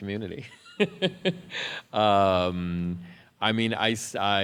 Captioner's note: laughs